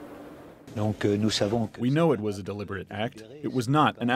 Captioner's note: through translator